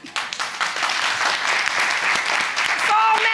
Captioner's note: audience applauding